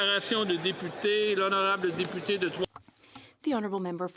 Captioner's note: speaking French